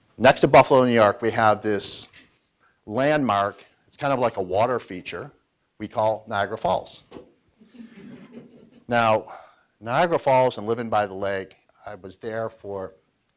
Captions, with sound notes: Next to Buffalo, New York, we have this landmark, kind of like a water feature, we call Niagara Falls. (audience laughs) Now, Niagara Falls and livin' by the lake, I was there for,